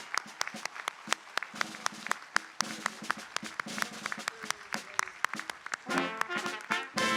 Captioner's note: applause